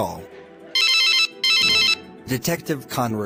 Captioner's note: cell phone dial